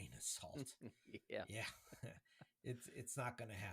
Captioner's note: laughter